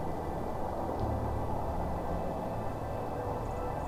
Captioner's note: light music; wind whirring